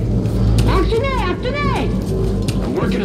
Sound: alien language

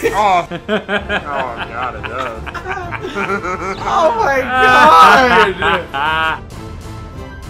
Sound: laughs maniacally

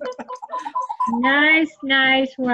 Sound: cheering

